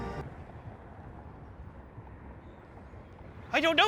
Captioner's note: wind blowing